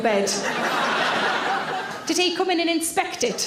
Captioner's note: audience laughs